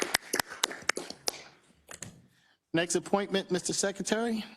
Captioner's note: applause